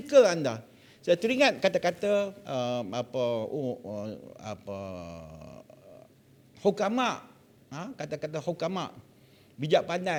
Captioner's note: in Arabic